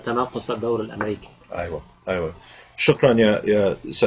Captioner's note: speaking Arabic